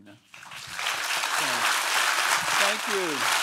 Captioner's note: audience applauding